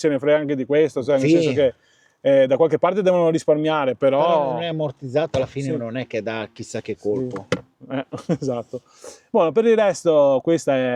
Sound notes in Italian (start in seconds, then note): 8.7 sbuffare